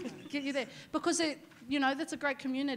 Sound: laughing

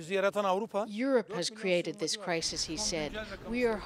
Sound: speaking Foreign Language

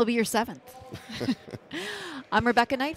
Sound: laughing

